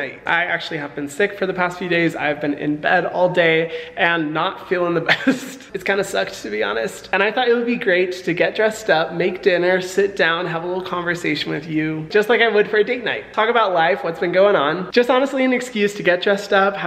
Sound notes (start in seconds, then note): 5.0 laughs